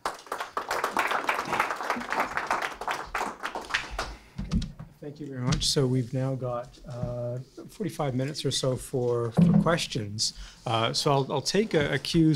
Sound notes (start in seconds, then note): 0.0 applause; 5.0 voiceover